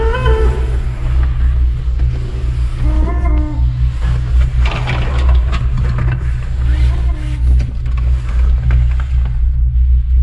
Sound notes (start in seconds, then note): 0.2 clown laughing; 5.1 bones rattling